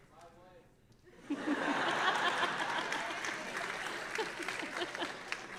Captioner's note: audience laughing